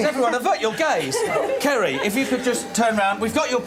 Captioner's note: laughing